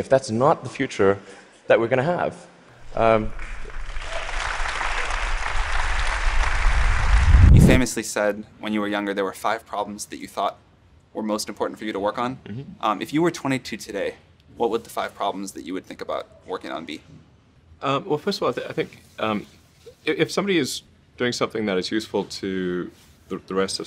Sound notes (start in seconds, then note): 5.5 applause